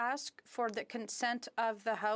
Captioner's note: speaking in French